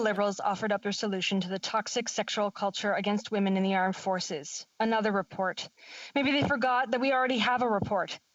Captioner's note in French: voix de l'interprète